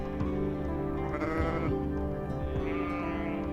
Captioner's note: sheep bleat